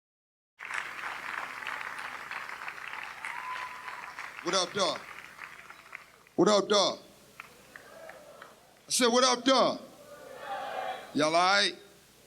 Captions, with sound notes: (applause) - What up dog? (crowd responding) - I said what up dog? (crowd responding) - Y'all all right?